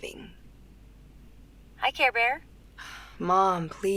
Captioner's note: on phone; sighs